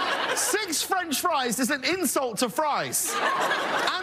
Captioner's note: laughing